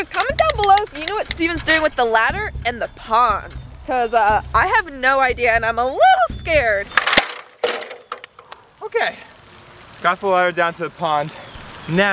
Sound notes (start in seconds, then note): 7.0 ladder clattering